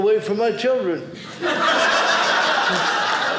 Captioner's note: audience laughing